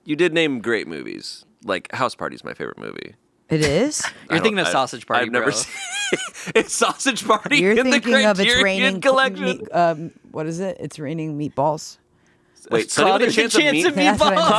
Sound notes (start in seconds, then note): 5.5 laughing